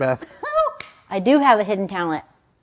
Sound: chuckles

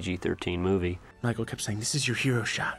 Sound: weird voice

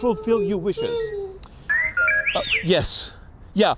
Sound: robot beeping

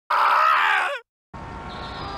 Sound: me screaming in reverse

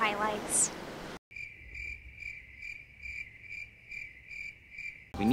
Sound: crickets chirping

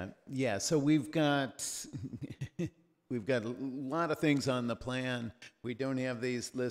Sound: chuckles

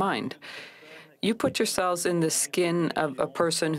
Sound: speaking french

